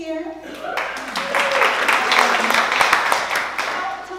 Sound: applause

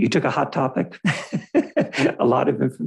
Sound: laughs

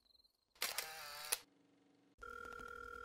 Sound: camera clicking; phone ringing

